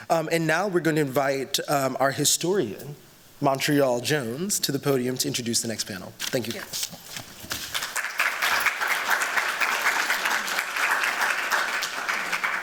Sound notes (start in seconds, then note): 7.7 applause